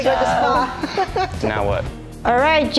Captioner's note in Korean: 웃음